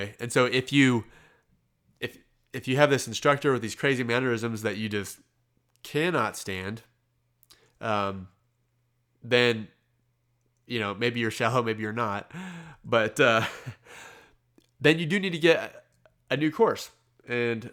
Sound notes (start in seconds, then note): 13.3 laughs